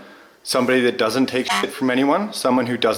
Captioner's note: horn honks